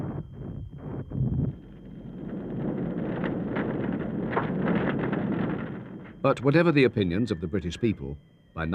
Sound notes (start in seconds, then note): 0.1 building rumbling; 3.6 fire crackling